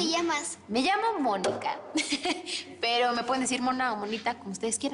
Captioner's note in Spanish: Ríe